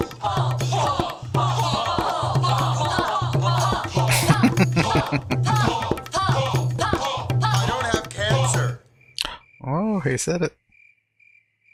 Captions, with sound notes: [Laughing] Oh, he said it.